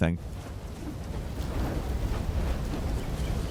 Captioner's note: fire crackling